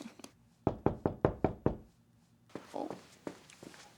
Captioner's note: knock on Door